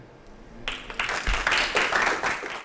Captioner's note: applause